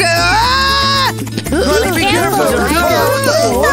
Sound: excited exclamations

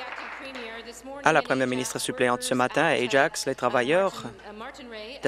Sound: applause

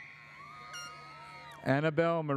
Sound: audience cheers

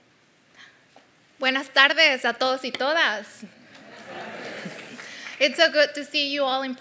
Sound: laugh

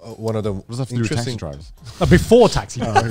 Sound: group chatter

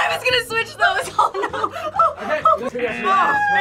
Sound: laughs

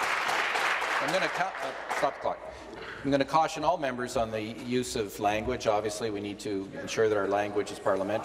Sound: applause

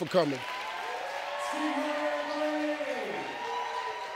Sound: muted cheering

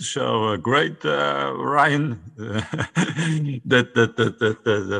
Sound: laughs

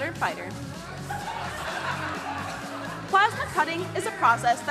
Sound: crowd laughing

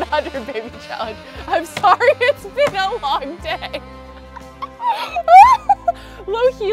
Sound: laughs

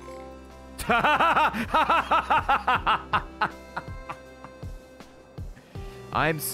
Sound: laughs

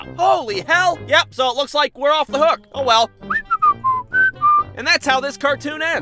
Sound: goes away whistling

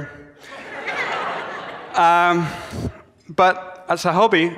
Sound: audience laughs

